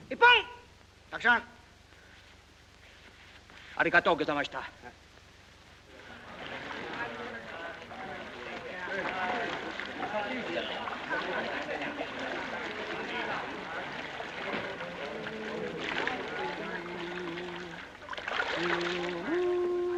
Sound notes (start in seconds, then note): 0.1 shouts commands; 3.6 speaks in Japanese; 6.0 water splashing; 6.3 indistinct conversation; 15.8 water splashing; 18.5 Nick hums; 18.8 water splashing